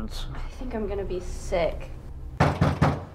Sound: sighs

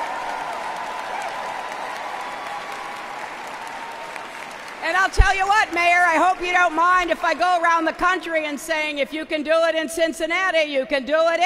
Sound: applause

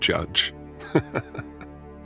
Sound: chuckles

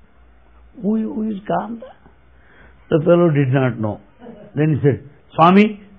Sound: laughter

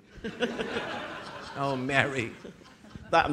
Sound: audience laughing

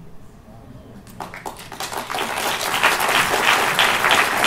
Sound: applause

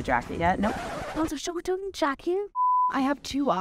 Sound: record scratching

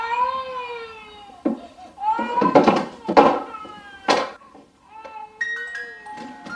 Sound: baby crying; music box playing

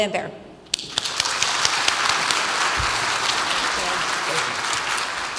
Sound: audience applauds

